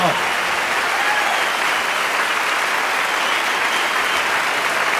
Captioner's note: audience cheering